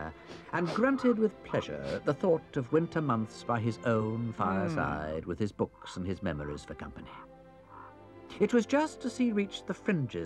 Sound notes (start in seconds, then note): 0.2 badger sniffs; 4.3 Badger hums